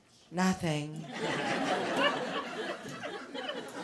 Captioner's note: laughter